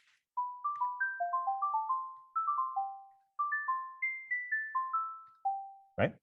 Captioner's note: bell-like tone sounds play